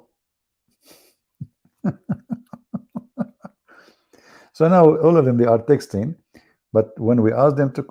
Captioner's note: Ketawa